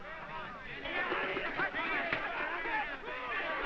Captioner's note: men clamoring